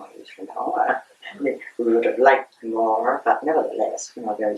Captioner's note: laughs